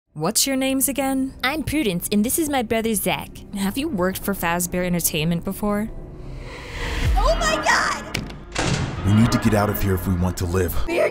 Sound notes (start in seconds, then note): 6.0 swooshing